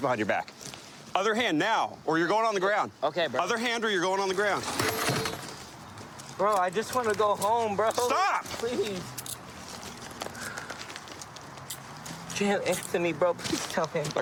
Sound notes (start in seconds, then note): none